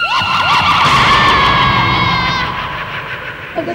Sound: screams

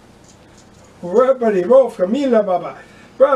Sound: voice chants offstage

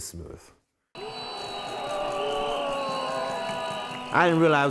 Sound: students jeering

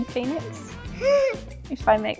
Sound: gasps

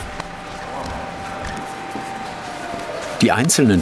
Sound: high machine whirring

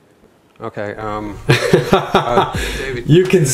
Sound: laughs

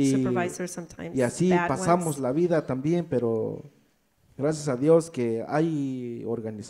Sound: speaks in foreign language

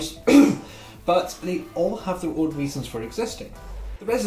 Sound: cough

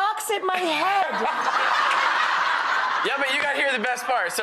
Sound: audience laughter

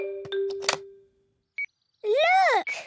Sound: clicks; meter beeping

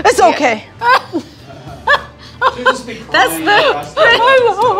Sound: laughs

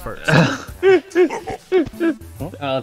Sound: laughing

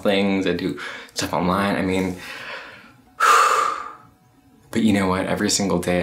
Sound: breaths heavily

